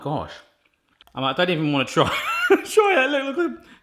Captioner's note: laughing